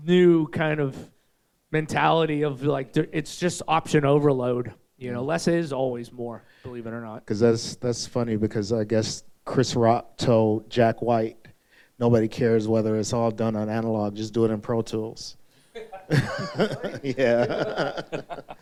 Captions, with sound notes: new kind of mentality of like, it's just option overload, you know? Less is always more, believe it or not. That's funny, because I guess Chris Rock told Jack White, "Nobody cares whether it's all done on analog, just do it in Pro Tools." (audience laughing) (laughing) Yeah.